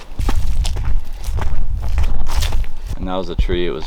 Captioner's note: brush crinkles